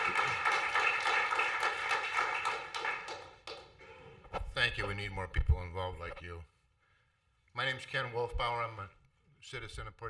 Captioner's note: applause